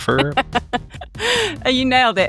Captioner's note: laughing